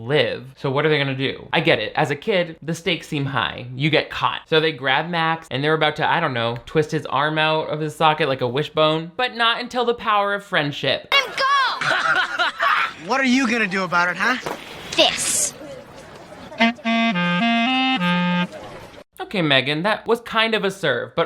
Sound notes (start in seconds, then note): 11.7 Dobbs laughs; 16.5 clarinet music